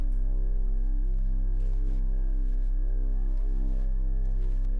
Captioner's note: rustling